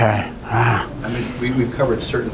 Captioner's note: sighs